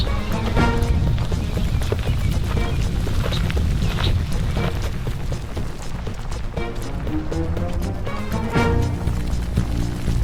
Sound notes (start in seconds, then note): 3.6 gravel crunching